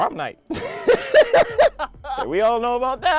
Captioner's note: both laughing